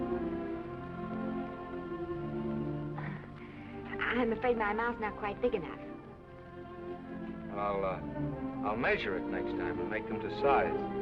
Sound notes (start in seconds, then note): 3.2 Esther chuckles